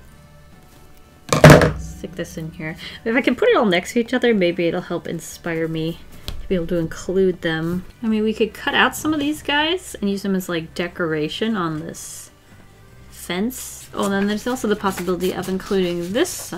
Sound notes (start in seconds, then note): 1.3 thud